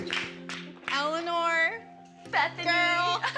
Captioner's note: snickers